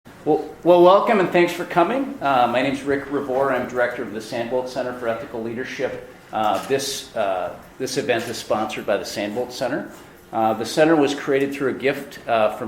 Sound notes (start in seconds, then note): 0.3 voiceover